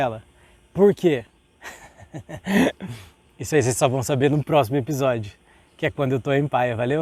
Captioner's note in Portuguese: risos